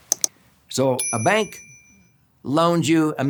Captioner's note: bell rings